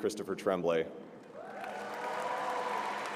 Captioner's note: applause